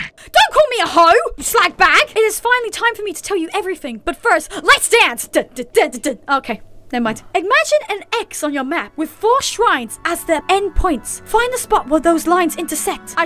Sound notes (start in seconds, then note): none